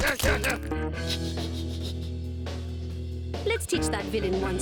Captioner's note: titters; shouting